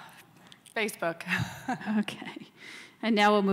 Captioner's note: laughs